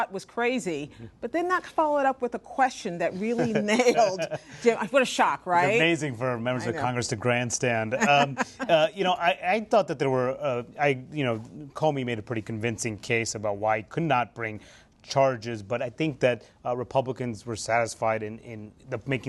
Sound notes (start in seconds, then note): 7.9 laughter